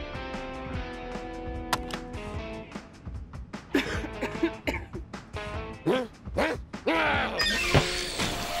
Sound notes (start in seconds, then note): 3.7 coughs politely